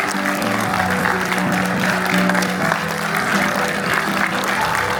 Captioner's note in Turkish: alkış